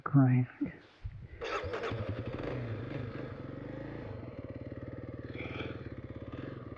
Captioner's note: motor rumbling